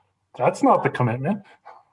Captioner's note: laughs